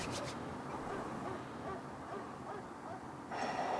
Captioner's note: dog barking